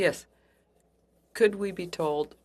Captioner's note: speaking French